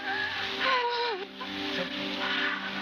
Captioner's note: screaming